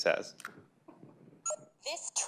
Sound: beeping

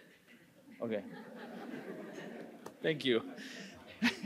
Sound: audience laughing

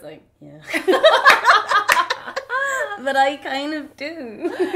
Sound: both laugh

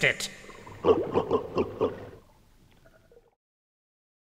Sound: creature gurgles

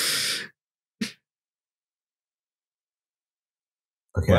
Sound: laughter

